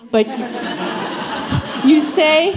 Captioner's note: laughter